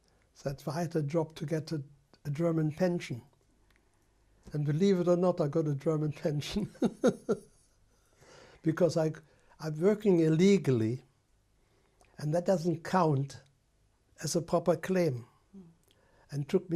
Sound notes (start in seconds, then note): 6.5 laughs